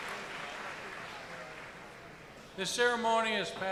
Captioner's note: applause